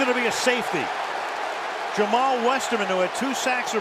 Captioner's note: cheering